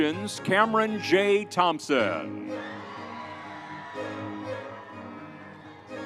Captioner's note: crowd cheering